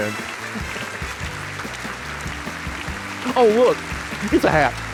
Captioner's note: audience applauding